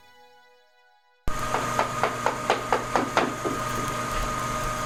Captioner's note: machine shop noises